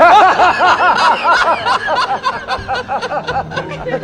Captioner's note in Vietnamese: tiếng cười